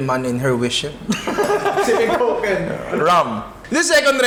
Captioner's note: laughs